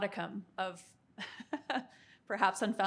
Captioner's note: chuckling